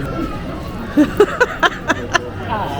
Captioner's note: offscreen laughter